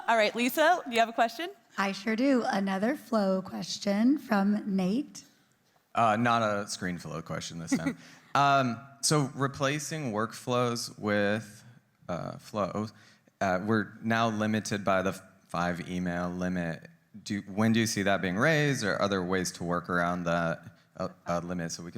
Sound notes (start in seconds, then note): 7.7 laughing